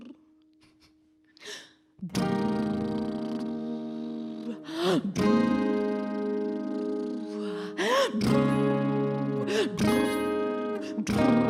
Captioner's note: lip trill